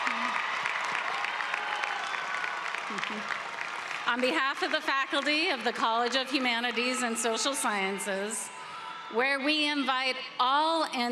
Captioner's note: cheering and applause